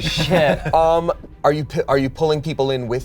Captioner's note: all laugh